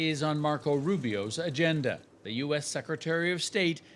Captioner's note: bombs